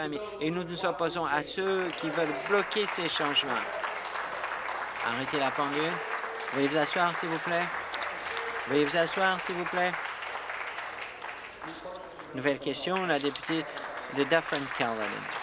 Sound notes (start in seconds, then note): 6.1 applause